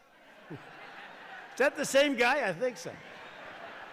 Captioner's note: laughter; laughs; laughter